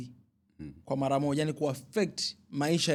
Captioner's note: clearing throat